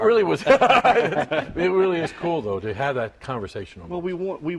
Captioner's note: laughter